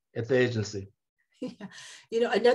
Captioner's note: laughter